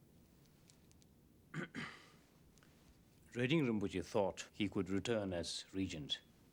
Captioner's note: clears Throat